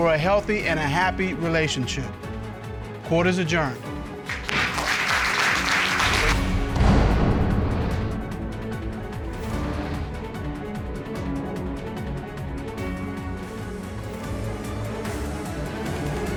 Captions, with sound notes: for a healthy and a happy relationship. Court is adjourned. [applause] [dramatic music playing]